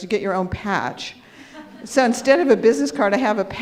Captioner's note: audience laughs